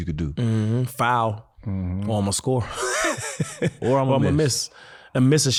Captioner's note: laughs